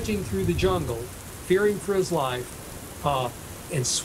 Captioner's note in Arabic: صوت هدير المطر الغزير